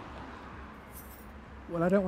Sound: bracelet clinks

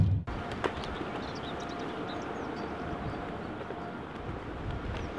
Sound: birds chirping

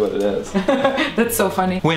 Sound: laughing

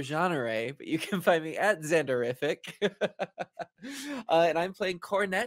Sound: laughs

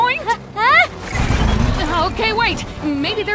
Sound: static crackling

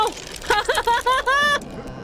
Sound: manic Laughter

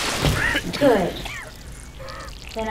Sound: spellbinder coughing

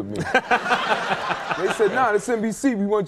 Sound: audience laughing

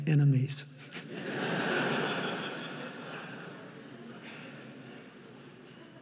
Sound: chuckles; audience laughing

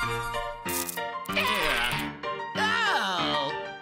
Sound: spider screams

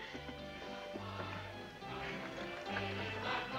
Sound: chuckles

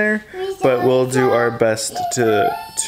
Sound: vocalizing

